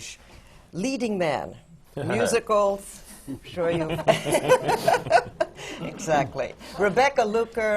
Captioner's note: laughs; laughter from the panel